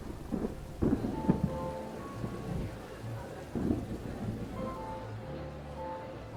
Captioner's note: thunder rumbling; light piano music